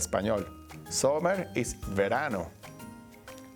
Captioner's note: speaking Spanish